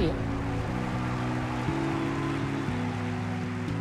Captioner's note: cheering, applause